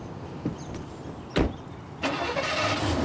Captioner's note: engine turns over